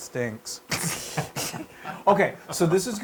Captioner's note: laugh